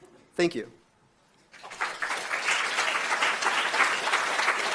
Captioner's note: applause